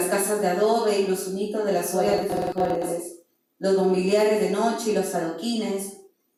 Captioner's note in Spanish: Sonido que distorsiona